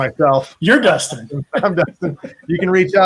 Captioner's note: laughs